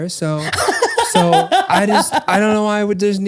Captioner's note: laughs